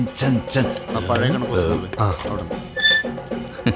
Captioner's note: indistinct chatters